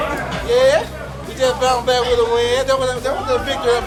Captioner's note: stutters